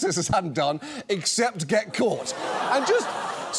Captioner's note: audience laughs